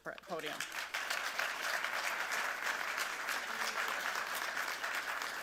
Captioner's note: audience applauds